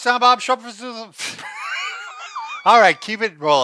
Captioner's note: both laughs